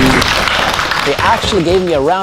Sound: clapping

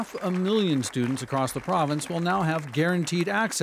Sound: cheers and applause

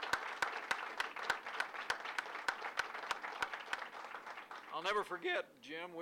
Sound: applause

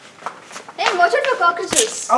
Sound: squishing noises

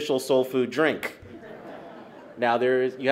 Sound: laughter

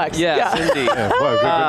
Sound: laughing

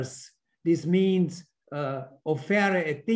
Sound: speaks in foreign language

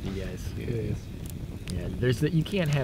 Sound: all agreeing

